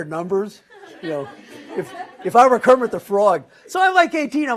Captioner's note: laugh